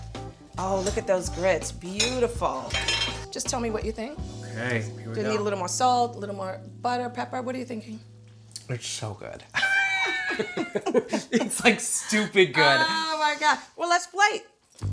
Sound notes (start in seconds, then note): 9.5 both laugh